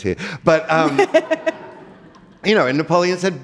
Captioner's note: giggles